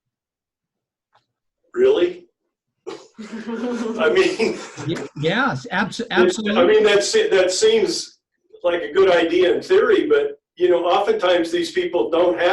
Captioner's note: laughter